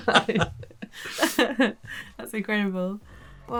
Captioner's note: both laughing